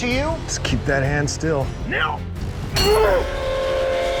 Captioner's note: grunting; train whistle